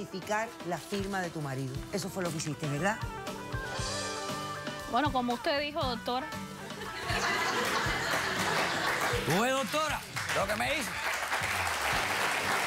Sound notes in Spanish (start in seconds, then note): 6.7 risas